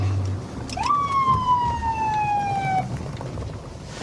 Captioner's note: sirens blaring